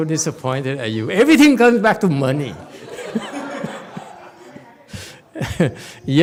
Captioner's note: laughs, audience laughs